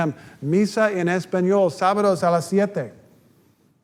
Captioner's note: reading sign, speaking Spanish